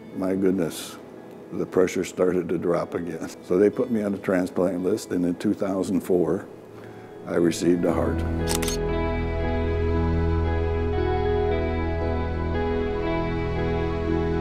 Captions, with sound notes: my goodness, the pressure started to drop again. They put me on a transplant list and in 2004, I received a heart. (camera shutter snap) (slow music) (slow music)